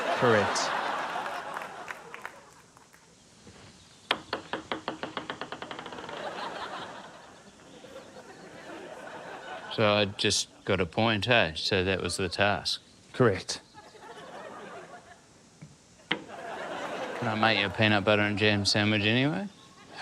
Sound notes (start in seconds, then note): 0.0 applause; 6.0 laughter; 16.0 laughter